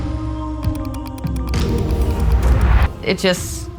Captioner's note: computer mouse clicks